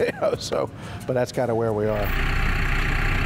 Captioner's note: laughs